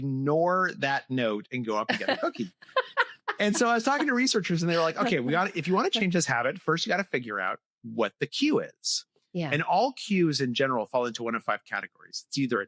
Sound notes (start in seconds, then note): 1.8 laughter